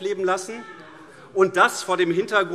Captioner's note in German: Zuruf SPD: Ja! - Heiterkeit SPD